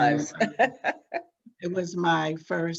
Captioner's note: laughs